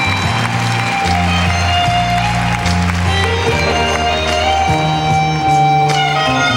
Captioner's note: crowd cheering